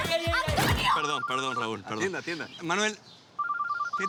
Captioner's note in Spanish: Suena el celular